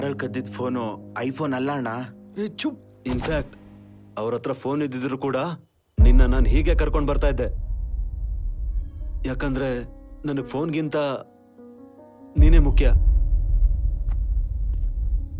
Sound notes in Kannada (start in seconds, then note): none